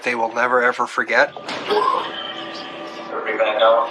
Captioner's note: pererson n cocoughs